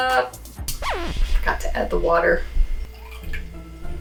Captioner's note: record scratching